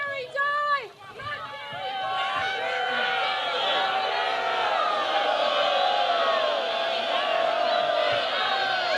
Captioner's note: booing